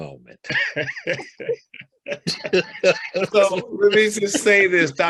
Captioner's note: both laugh